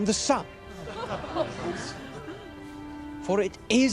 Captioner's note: <i> crowd laughs</i>